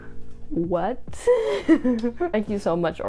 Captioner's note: giggles